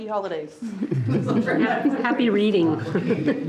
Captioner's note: participants laughing